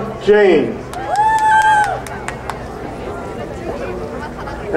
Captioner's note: crowd cheering